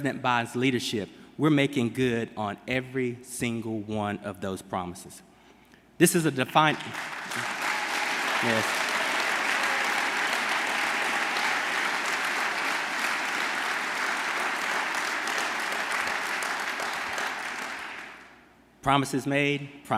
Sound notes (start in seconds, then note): 7.8 applause